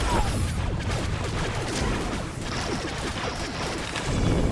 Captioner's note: gun shots